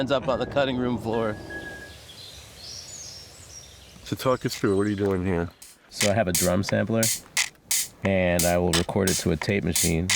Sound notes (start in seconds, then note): 2.6 birds chirping